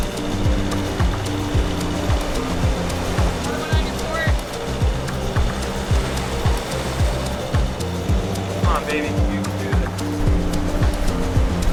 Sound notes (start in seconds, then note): 5.8 waves splashing